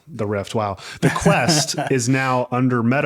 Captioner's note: laughing